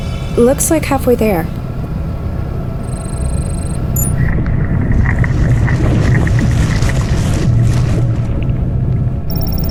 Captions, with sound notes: Looks like halfway there. (system beeping) (ice cracking)